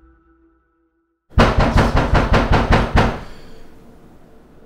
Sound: banging at door

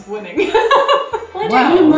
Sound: laughing

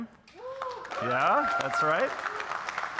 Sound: audience cheering and applauding

